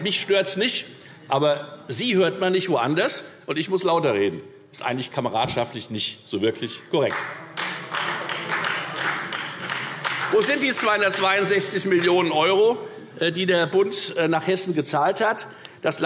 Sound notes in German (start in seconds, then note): 7.0 Beifall Freie Demokraten